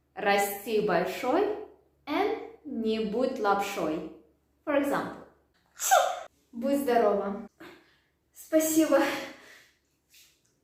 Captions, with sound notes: and не будь лапшой for example *sneezes* будь здорова спасибо